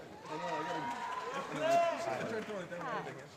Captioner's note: applause